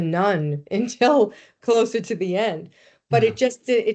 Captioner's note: chuckling